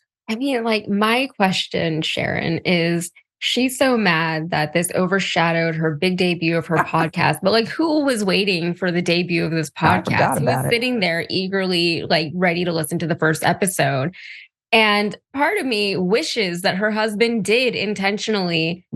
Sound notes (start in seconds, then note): 6.7 laugh